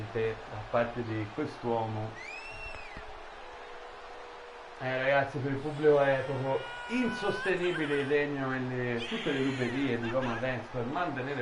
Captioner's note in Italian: Applauso